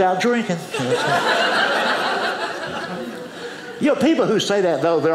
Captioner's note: audience laughing